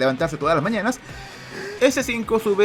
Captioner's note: inhales